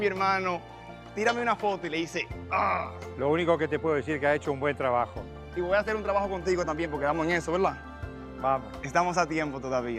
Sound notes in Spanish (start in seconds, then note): 3.4 Gruñe